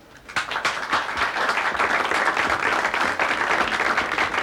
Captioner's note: applauding